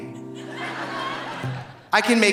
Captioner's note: audience laughing